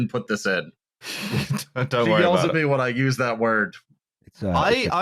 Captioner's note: laughs